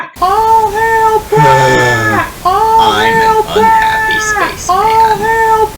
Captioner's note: sighs